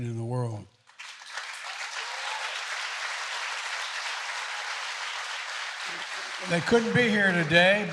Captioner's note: applause